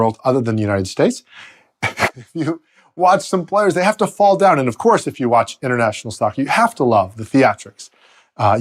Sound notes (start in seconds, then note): 1.8 laughs